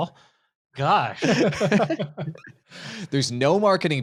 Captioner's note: all laughing